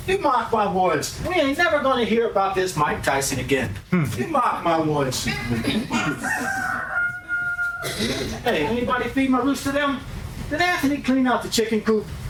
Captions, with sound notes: You mock my words. We ain't never gonna hear about this Mike Tyson again. You mock my words. [Laughter] Hey anybody feed my roots to them? Then after they clean out the chicken coop.